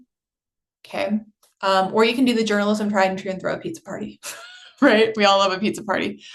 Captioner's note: chuckles